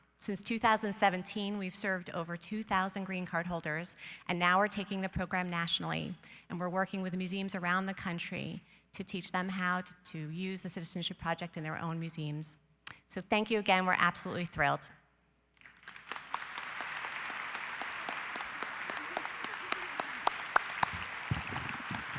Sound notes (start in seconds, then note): 15.6 audience applause